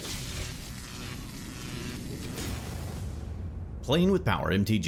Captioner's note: electricity Buzzing